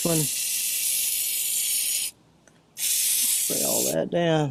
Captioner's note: liquid spraying